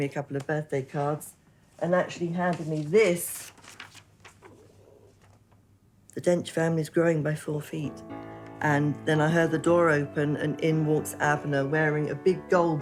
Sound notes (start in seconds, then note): none